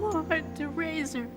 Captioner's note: sobbing